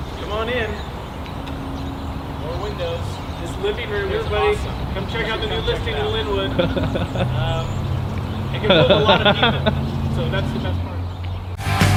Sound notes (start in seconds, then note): 8.6 laughing